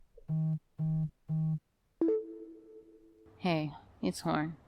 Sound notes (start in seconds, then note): 0.2 phone Vibration Rumbles; 2.0 voice Mail Received Beep